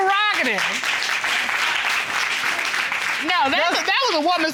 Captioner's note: applause